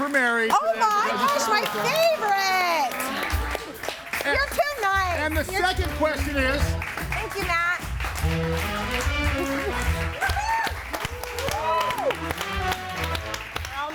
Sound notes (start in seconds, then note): 2.2 audience applauds; 8.1 audience cheers; 8.3 upbeat music; 9.2 laughs; 11.9 upbeat music